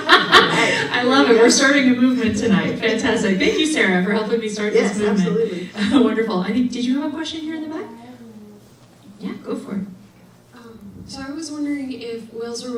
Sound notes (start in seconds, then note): 0.0 laughing